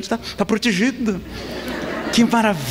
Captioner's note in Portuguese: risadas